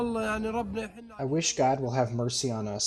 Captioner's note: through translator